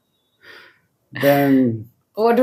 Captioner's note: laughs